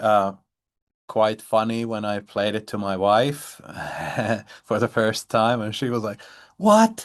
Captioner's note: chuckles